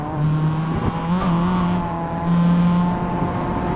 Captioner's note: tyre hop sound